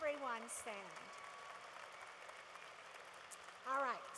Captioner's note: cheering